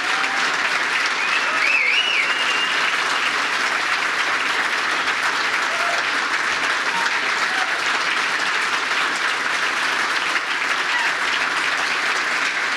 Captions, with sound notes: (applause) Thank you. But it's amazing to me because nobody has been